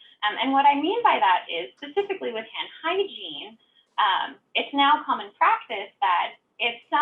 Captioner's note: none